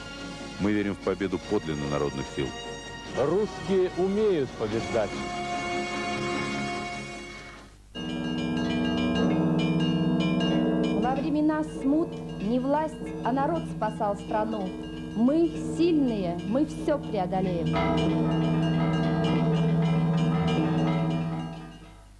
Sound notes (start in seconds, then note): 7.9 ringing bells